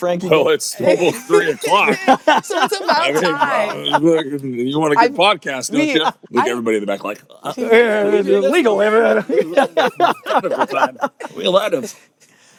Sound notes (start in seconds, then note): 0.9 laughs; 9.3 overlapping chatter and laughter